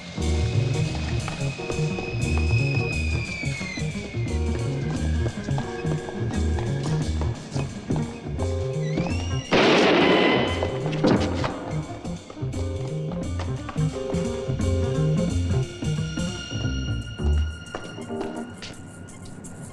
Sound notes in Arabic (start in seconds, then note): 9.5 إطلاق نار; 12.7 موسيقى مشوقة